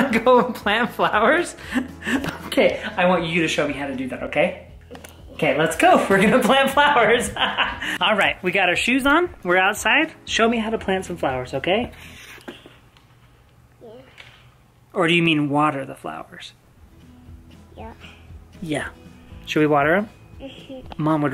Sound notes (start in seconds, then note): 7.5 laughs